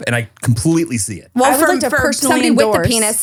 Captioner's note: overlapping chatter